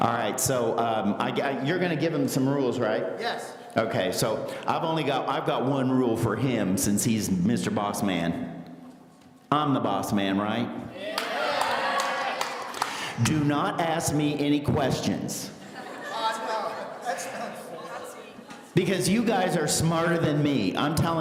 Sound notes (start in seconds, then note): 10.9 audience cheering; 15.6 laughing